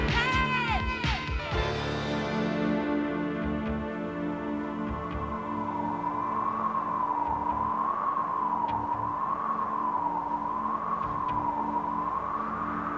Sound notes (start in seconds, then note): 1.5 tense music; 4.9 wind whooshing